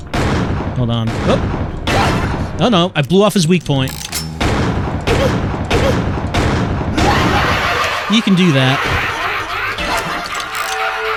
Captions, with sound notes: Hold on. Oh no! I blew off his weak point! [repeated gunfire] [crazed laughter] You can do that.